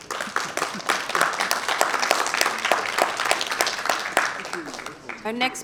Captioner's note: applause